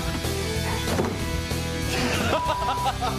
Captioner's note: laughing